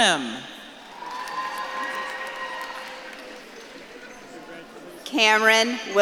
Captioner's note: audience claps and cheers